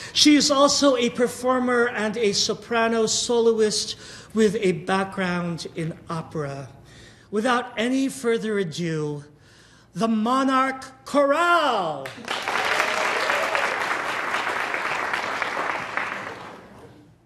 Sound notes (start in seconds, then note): 12.0 audience applauding